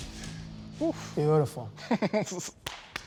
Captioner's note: laughs; claps